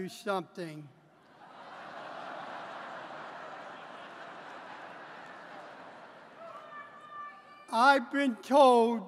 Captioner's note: laughter